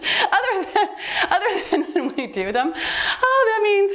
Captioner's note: timer beeps